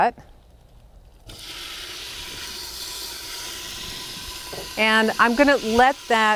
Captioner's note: sizzling